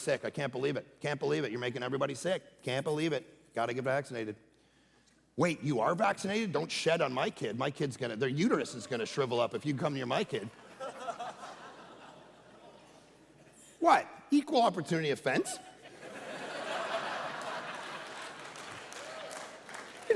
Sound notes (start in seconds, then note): 10.4 congregation laughing; 15.4 congregation laughing